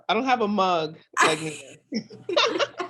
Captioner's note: group laughter